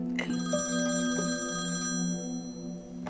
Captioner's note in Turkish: Telefon çalıyor